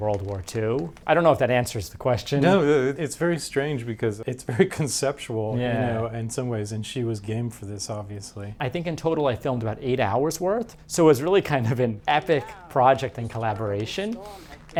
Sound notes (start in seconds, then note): 4.4 chuckles